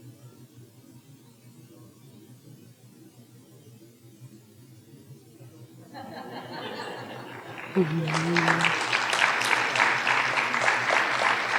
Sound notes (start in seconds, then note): 6.0 audience members talking and laughing off microphone; 8.3 audience applauding